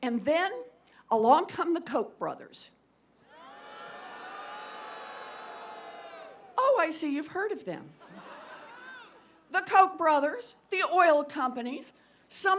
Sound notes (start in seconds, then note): 3.2 booing